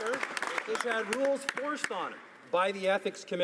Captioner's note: some Applause